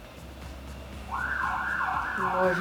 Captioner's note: siren